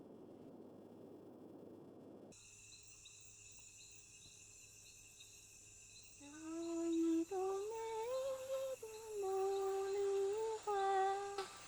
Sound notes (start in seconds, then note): 3.1 crickets chirping; 6.7 Mandarin singing in distance